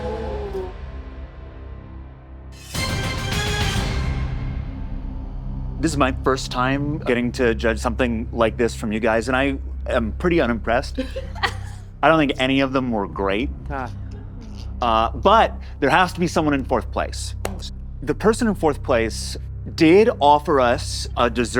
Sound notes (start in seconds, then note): 2.5 intense music; 10.9 all laughing